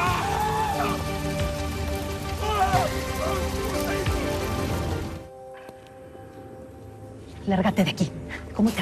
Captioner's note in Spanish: Gritos; Crepitar de las llamas